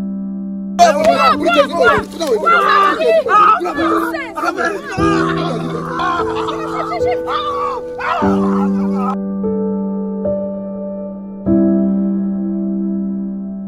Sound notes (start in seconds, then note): 0.9 speaking foreign language; 6.3 Kep screaming